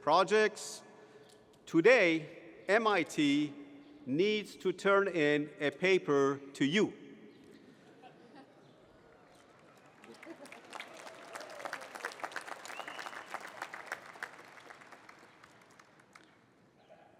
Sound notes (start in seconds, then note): 7.5 laughter; 9.2 applause